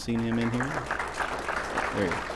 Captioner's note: applause